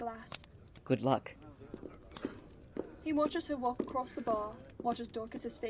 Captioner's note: footsteps